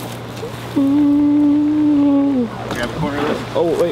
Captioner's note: humming